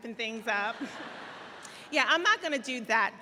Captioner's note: audience laughs